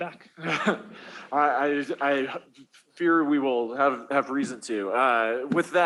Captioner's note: laughs